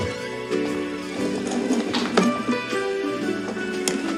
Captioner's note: door creaking